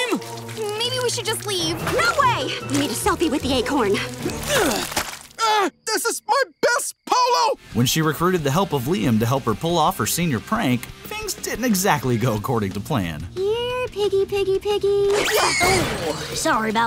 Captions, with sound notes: Maybe we should just leave. No way. We need a selfie with the acorn. [grunting] This is my best polo! When she recruited the help of Liam to help her pull off her senior prank, things didn't exactly go according to plan. Here, piggy, piggy, piggy. Oh! Sorry about that.